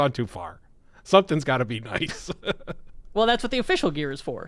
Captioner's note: laughs